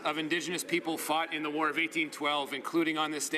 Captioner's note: speaking French